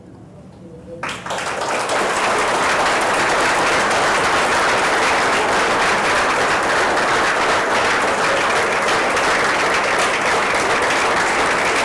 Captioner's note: applause